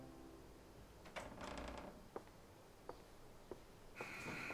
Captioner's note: door creaking